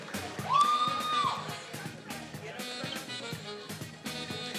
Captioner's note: attendee cheering